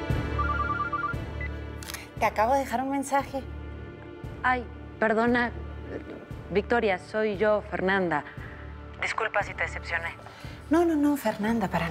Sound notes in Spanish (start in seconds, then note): 1.8 suena el celular